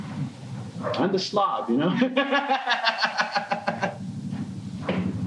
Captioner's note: laughing